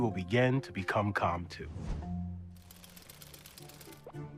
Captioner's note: intense music; gears whirring